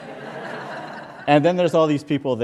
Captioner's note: laughter